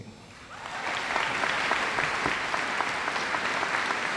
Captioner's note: audience applauds